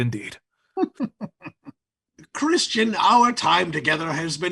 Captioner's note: laughs